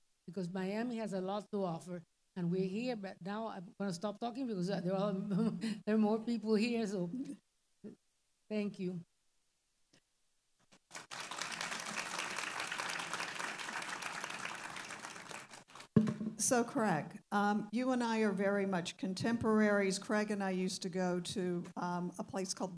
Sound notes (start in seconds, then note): 10.8 audience applauding